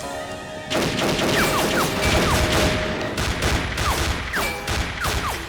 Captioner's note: gunfire clattering